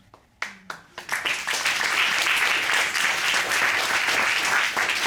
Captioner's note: applause